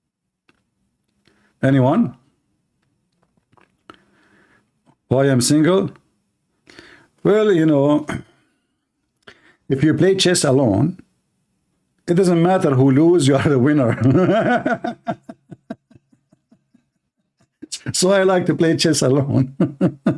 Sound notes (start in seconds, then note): 13.8 Ketawa